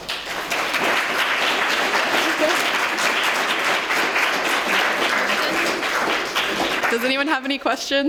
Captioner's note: applause